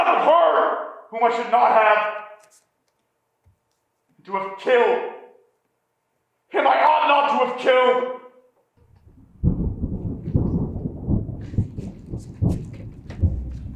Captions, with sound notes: and who has slept with her whom I should not have. To have killed him I ought not to have killed. (thunder clapping)